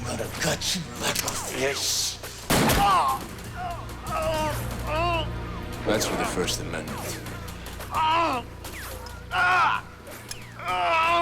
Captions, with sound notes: I'm gonna gut you like a fish. (gun fires) (Lamont cries out) - That's for the First Amendment. (Lamont groans)